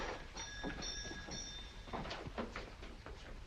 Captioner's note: door opens